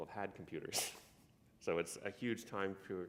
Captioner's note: chuckle